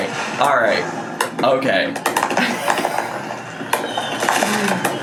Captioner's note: laughs